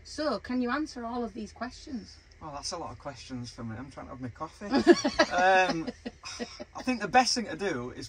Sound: laughing

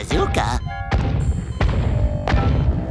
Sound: stomping

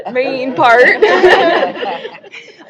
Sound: laughter

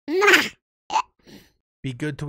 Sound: chipmunk voice stammers, hiccups

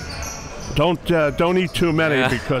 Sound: laughing

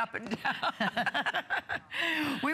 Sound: laughter

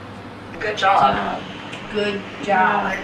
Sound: voiceover

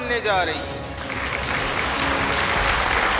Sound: clapping

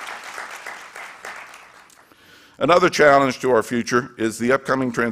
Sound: applause

